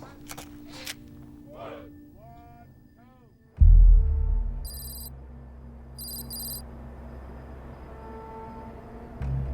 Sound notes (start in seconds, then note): 1.5 army chanting; 3.5 text clicking; 3.5 tense music